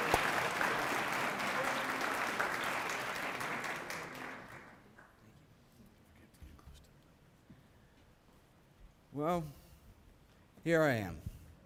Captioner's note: cheering and applause